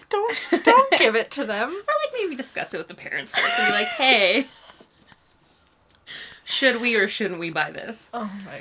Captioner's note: laughs